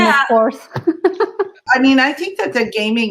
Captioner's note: laughs